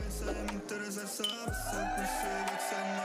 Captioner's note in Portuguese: todos aclamando